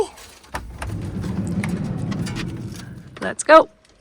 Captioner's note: door clattering